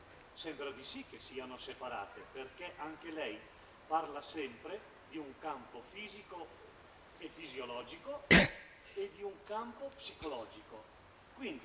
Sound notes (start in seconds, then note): 2.2 Italian